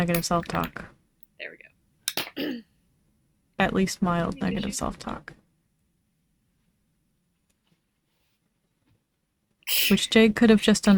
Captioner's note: clears throat